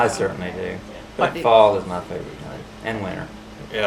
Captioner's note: laughs